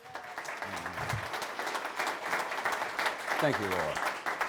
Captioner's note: audience clapping